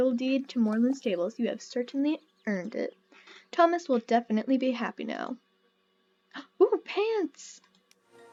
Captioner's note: gasp